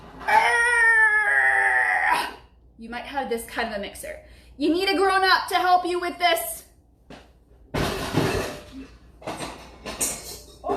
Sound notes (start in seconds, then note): 0.7 grunting; 7.8 mixer crashes